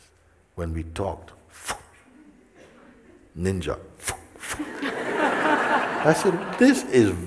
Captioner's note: laughter